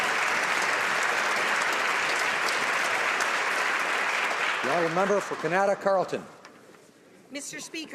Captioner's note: applause